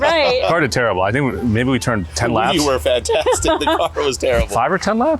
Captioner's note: laughs